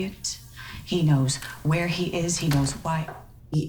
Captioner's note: door shuts